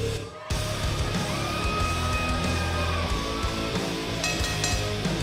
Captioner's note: crowd cheering; bell ringing